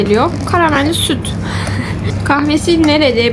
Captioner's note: ehehe